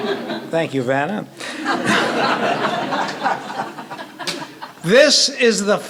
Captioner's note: laughter